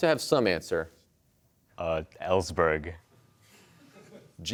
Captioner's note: laughter